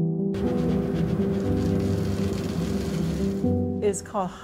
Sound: machine humming

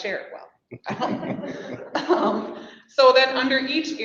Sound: people laughing softly

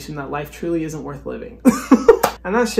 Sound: laugh

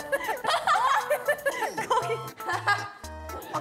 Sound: laughing

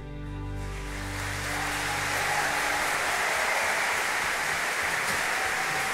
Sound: audience cheering and applauding

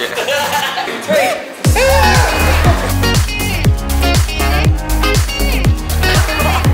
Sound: laughs; group laughs; group cheers

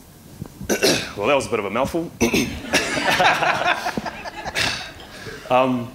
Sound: laughter

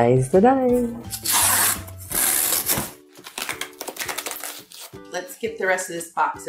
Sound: packages tearing open

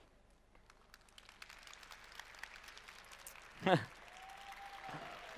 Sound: cheering

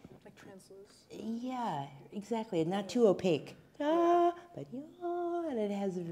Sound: humming

